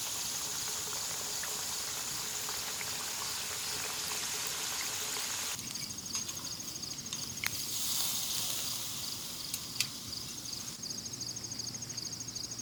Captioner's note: crickets